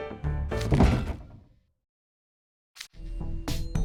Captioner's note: swoosh